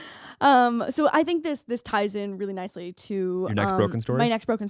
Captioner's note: laughing